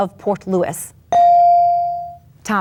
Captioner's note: bell dings